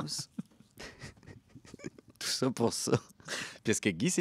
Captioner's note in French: rires